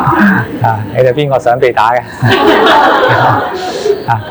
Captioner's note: laughter; 笑聲